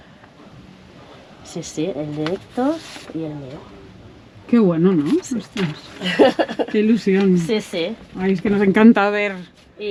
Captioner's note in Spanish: risas